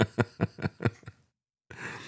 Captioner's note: laughing